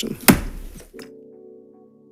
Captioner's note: gavel bangs; calm music